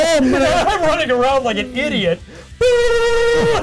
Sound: laughing

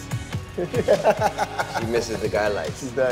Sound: laughs

